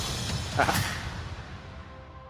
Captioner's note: laughing